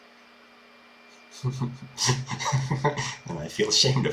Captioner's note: chuckle